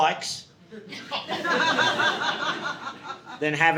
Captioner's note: audience laughing